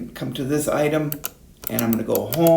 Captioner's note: switch pushing